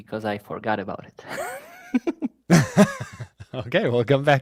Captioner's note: laughter